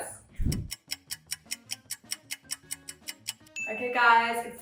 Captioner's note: clock ticking